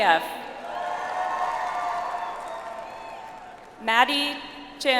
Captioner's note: audience applauds